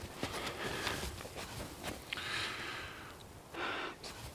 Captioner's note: James pants